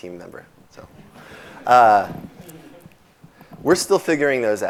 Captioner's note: laughing